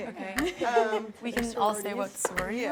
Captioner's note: laughs